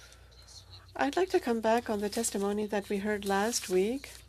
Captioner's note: speaking French